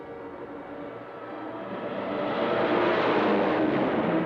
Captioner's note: planes roaring